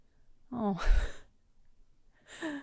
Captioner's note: sad ohh sound